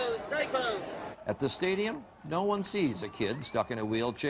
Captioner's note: voiceover